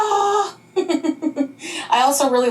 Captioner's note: laughing